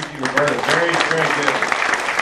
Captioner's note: clapping